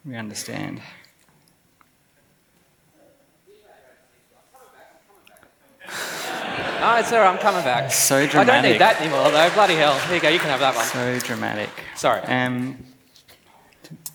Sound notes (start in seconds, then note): 5.8 laughs